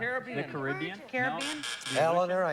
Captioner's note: buzz buzz